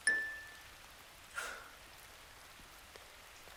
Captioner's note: bell dings